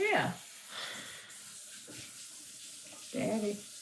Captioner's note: sink water running